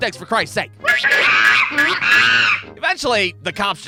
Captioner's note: baboons squeaking